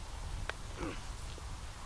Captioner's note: throat scraping